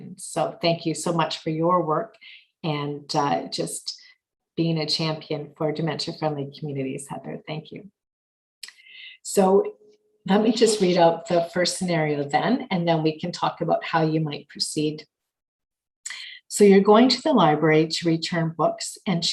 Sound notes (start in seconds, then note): none